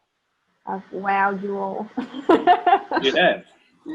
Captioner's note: laughs